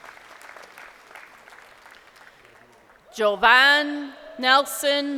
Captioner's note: crowd applauding